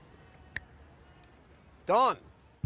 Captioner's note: snapping